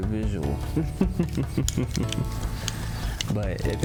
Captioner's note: laughs